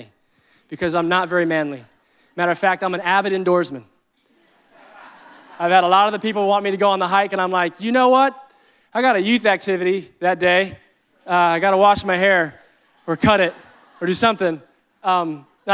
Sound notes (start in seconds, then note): 4.2 audience laughing